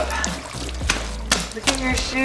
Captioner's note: wet shoes smacking on ground